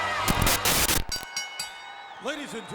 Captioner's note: bell rings